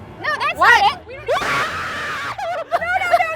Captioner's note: screams